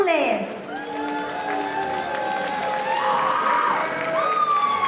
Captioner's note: audience cheering